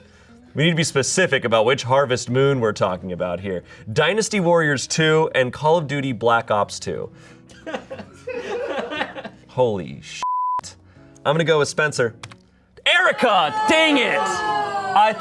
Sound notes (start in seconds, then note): 7.6 audience laughing; 10.2 beep